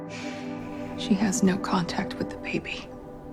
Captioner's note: voiceover